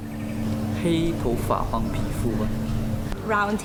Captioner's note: participant speaking in foreign language